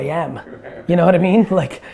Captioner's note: laughs